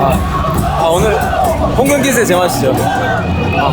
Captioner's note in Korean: 포효